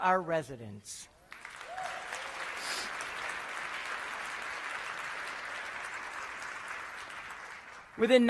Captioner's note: applause